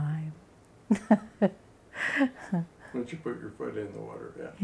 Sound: laughing

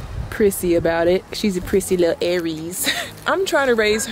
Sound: chuckles

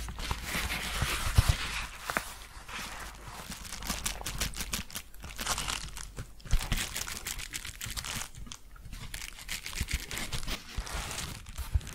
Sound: shuffling and crinkling

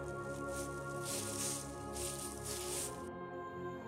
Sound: leaves crunching

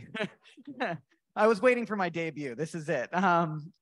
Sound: laugh

